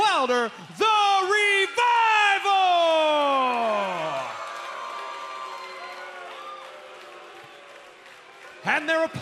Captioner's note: crowd cheering